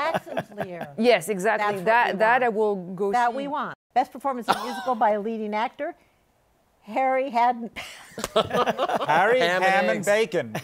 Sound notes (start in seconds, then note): 7.8 laughter